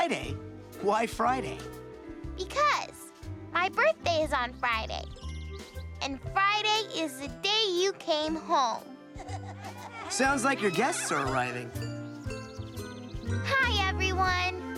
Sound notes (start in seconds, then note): 9.7 chatter